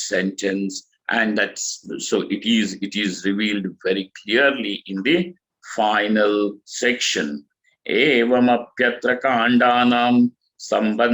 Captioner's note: sanskrit